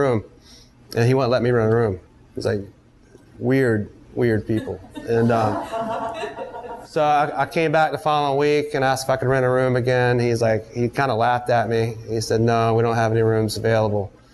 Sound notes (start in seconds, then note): 4.5 students laugh